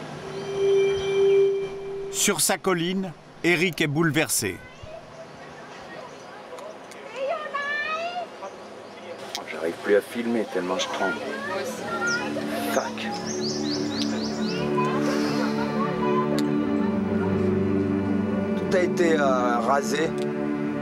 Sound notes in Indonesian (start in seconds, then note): 10.1 suara kicauan burung